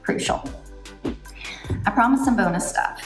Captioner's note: air whooshes